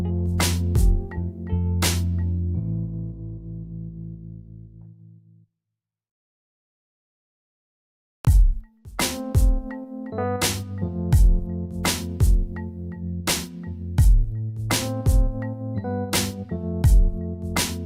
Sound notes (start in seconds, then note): none